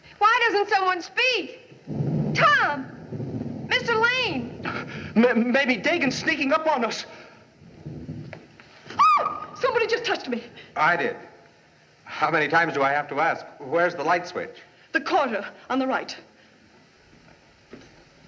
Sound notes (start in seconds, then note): 3.7 thunder Rumbling; 9.1 squeals